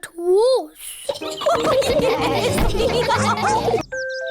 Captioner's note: all giggle